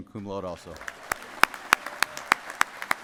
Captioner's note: applause